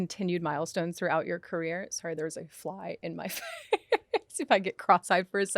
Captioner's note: laughs